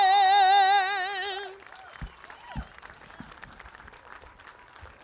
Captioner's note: applause